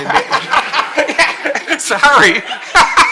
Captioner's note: audience laughing